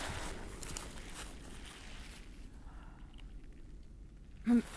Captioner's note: wind blowing